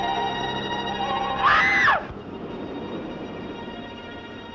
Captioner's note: scream